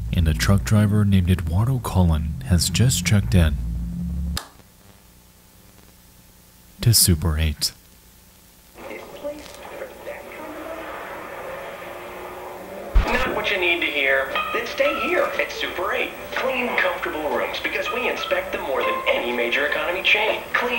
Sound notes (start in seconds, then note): 3.8 light switch clicking